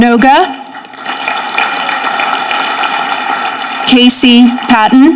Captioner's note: audience clapping